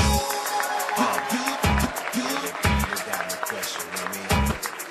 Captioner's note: applause